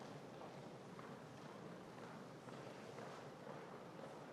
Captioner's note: none